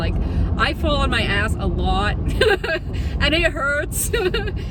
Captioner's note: laughs; laughs